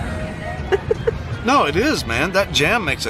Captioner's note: giggling